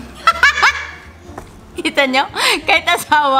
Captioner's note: laughs